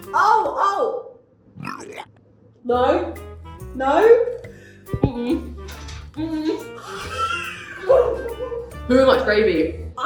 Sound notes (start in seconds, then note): 1.5 person retching; 6.8 wheezes